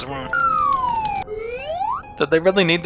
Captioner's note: slide whistle sound effect